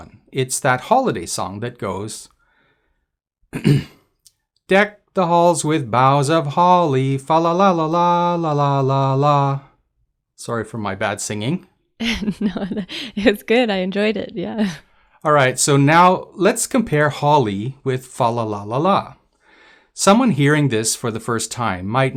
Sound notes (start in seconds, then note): 12.0 laughs